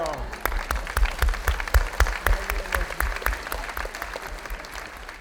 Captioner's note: audience clapping